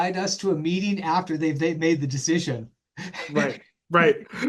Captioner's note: laughs